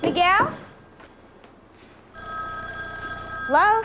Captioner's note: ring